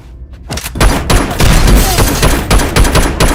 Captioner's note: gunshots